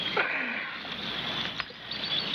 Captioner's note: grunting